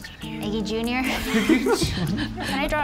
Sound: laughing

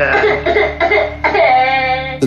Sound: child cries

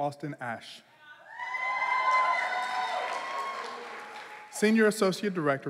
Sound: cheering

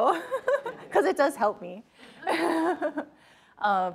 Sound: chuckles

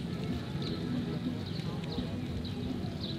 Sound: street noise

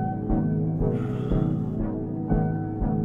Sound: heavy sigh

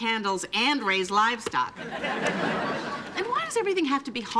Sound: audience laughing

